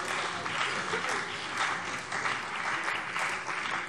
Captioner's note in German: Beifall CDU